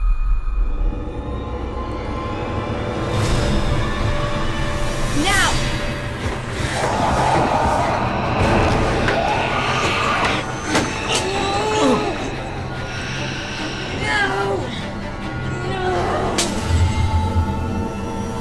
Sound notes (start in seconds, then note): 0.1 dramatic music; 6.6 growling; 11.1 grunting